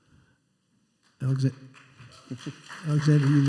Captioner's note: applause